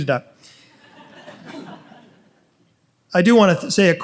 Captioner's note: audience laughs